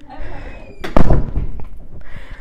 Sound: door closes

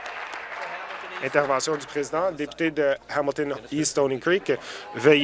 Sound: applause

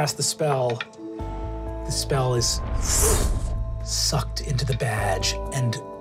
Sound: whooshes

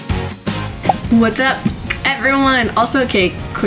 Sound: popping

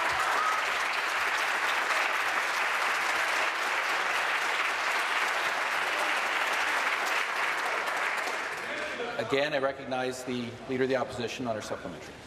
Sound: applause

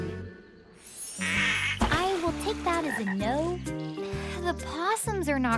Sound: quacking

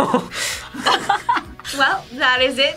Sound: both laugh; laughs

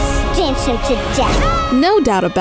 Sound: girl yells

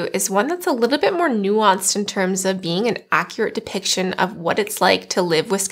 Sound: none

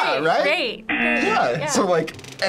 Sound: buzzer

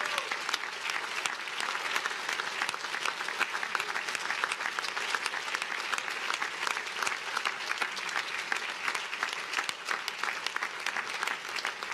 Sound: cheers and applause

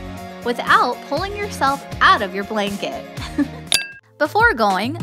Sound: chuckle

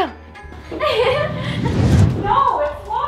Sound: laughing

